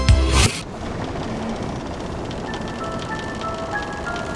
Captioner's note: ship creaking